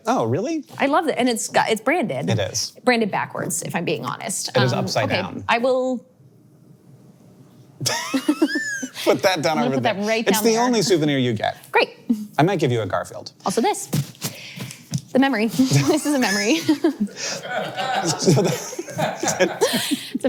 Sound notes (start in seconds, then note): 7.8 both chuckles; 13.8 microphone scuffles; 15.6 chuckles; 17.3 crew laughing; 17.3 laughs